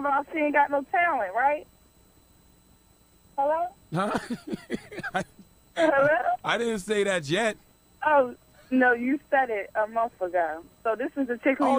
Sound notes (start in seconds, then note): 3.9 Charlamagne laughing